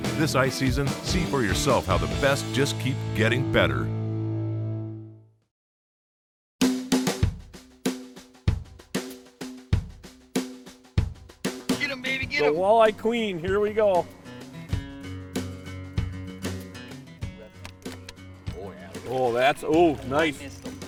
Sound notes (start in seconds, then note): 6.9 soft drum beat; 12.0 voiceover